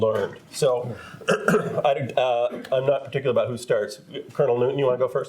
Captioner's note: clears throat